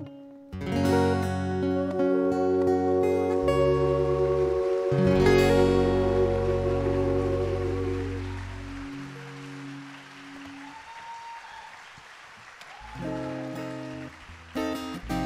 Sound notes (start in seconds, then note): 10.5 audience applauding